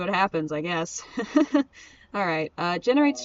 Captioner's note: laughs